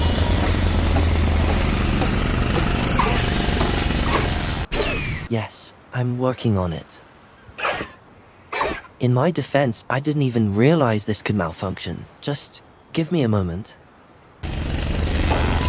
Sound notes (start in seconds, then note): 2.8 Highwing chirping impatiently; 7.4 Highwing chirping